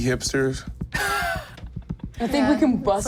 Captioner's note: chuckles